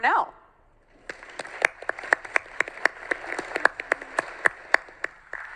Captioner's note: audience clapping